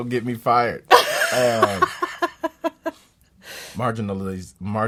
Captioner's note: laughs